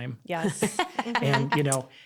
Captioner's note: laughs